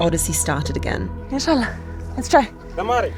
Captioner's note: speaks in foreign language